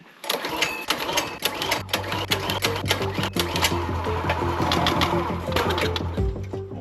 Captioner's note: splitter sputtering; upbeat music